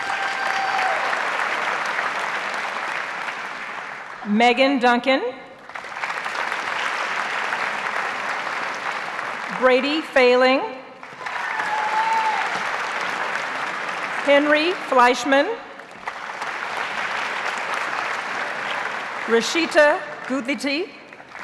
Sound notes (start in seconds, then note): 0.0 audience cheers and applauds; 5.6 audience applauds; 11.0 audience cheers and applauds; 15.6 audience applauds